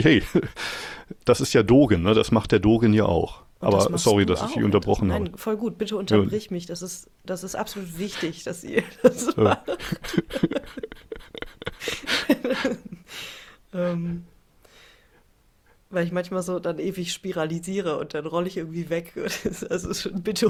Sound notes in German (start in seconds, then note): 12.4 gelächter; 19.2 gelächter